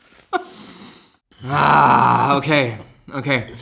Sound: laughs; moans

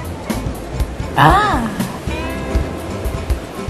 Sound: exclaiming Happily

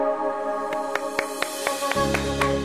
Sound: clapping

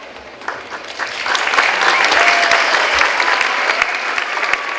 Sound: clapping and cheering

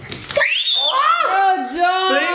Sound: shrieks

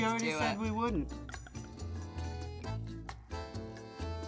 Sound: bottle gargles

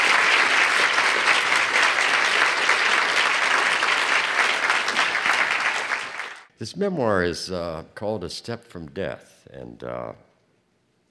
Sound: applause

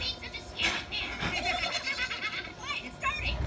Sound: laughter

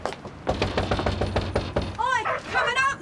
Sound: knocks on door

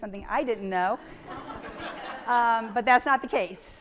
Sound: audience laughing

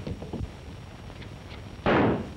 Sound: gunshots

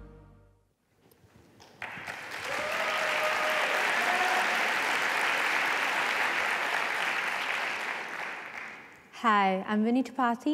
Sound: applause

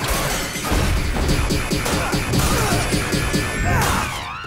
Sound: grunting

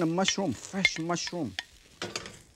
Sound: spatula clinks; bowl clinking

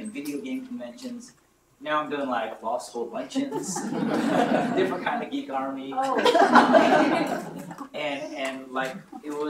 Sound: laughter

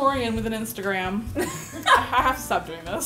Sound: laughing

